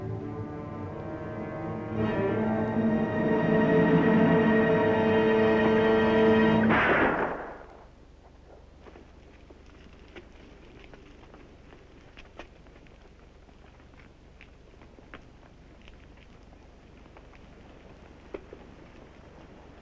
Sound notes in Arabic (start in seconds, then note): 6.6 طلقة نارية